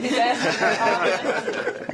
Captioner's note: laughter